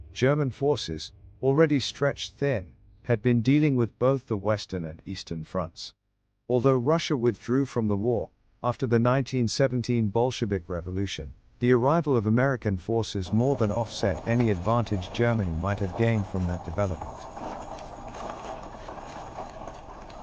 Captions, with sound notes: German forces, already stretched thin, had been dealing with both the Western and Eastern fronts. Although Russia withdrew from the war after the 1917 Bolshevik Revolution, the arrival of American forces more than offset any advantage Germany might have gained from that development [wheels turning]